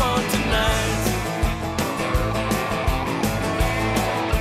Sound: crowd cheering

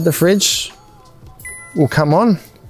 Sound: control panel dings

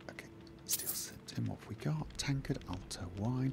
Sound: whisper

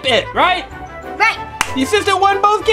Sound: claps

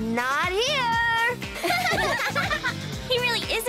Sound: laughing

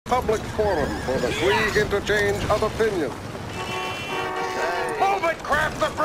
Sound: car Horns Honking

